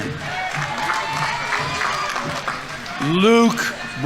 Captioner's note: audience applauding; audience members cheering